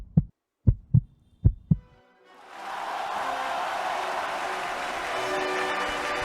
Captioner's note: cheers